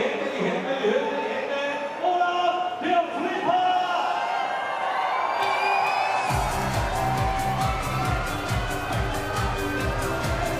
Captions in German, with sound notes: Alle die Hände nach oben. Olaf der Flipper! (Jubel, lebendige Musik)